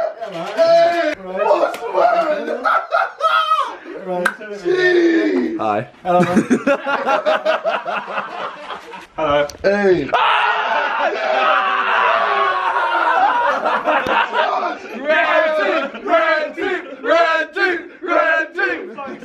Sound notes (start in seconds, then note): 3.3 laughing; 6.0 laughing; 10.1 screaming